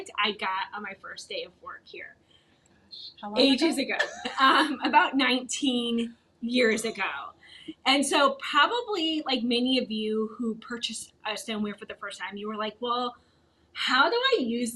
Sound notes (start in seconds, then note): 4.0 both laughing